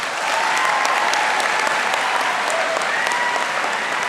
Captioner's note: audience applauding